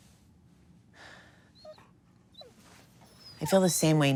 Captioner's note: dog whimpering